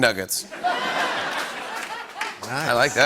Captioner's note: laughter